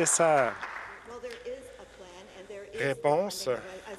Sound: some Applause

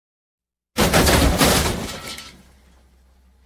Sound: crash!

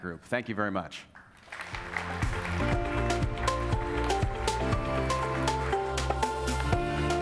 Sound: applause; light happy music

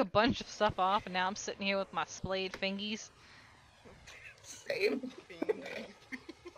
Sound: laughs; whisper laughs the word

